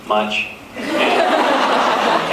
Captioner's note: laughs